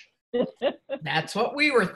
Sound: laughs

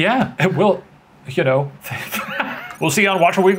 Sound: laughing

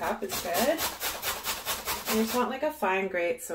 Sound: grater rasping

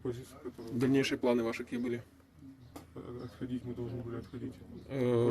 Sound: interrogating a POW in Russian

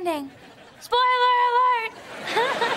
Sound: giggles

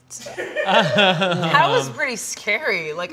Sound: crewmember laughs

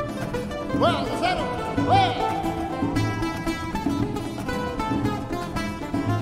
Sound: speaking foreign language

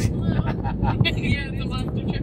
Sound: host laughs

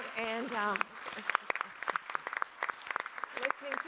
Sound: all applauding

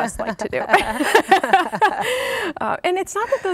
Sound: laughing

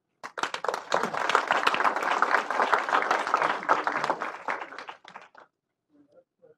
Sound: applause

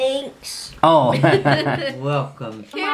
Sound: laughing

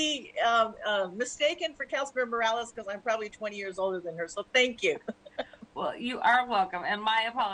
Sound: laughter

